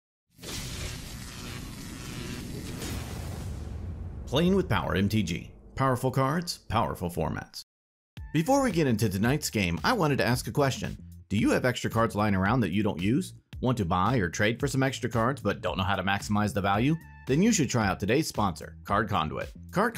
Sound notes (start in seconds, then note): 0.4 electricity sizzling; 0.4 logo whooshing